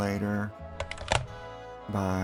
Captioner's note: click